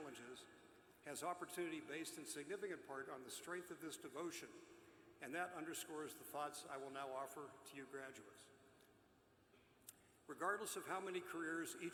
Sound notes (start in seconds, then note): none